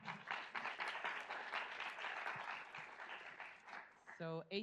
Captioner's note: audience applauds